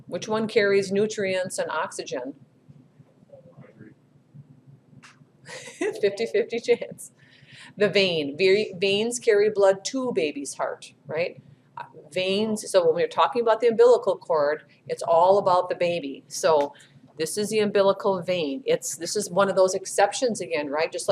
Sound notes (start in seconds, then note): 5.5 chuckles